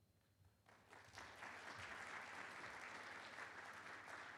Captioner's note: audience clapping